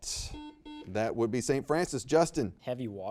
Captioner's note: buzzer beeps